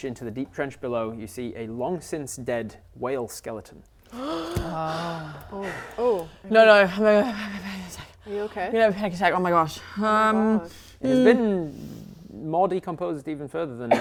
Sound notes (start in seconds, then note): 4.1 gasp